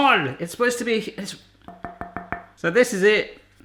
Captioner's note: tapping glass